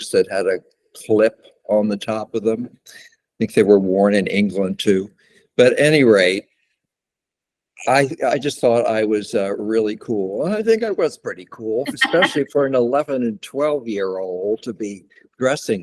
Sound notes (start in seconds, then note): 11.8 laughter